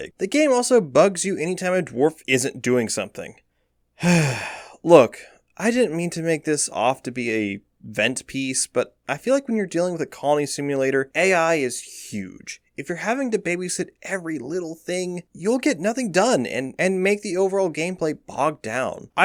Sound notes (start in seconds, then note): 4.0 sigh